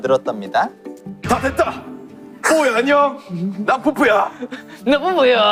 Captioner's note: manly voice